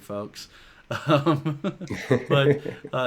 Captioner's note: chuckle